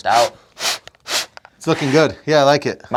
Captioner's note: exhaling